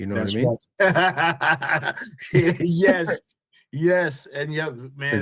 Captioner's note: laughing